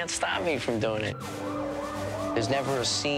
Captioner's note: sirens wailing